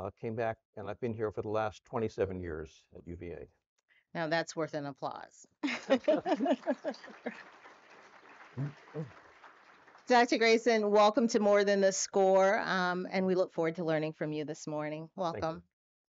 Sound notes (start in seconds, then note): 5.7 audience applauds